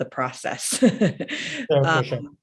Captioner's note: chuckles